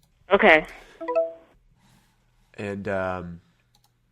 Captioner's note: chime